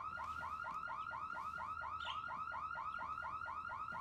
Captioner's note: alarm blaring